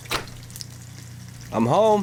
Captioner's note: door bangs